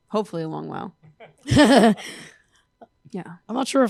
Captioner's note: laughter